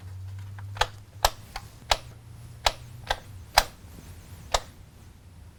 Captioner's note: light switch clicks